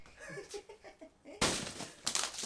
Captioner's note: chuckles; loud thud